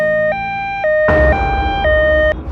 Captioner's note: ambulance